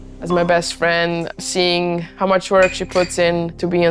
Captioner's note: none